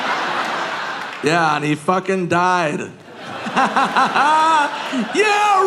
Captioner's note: audience laughing; laughing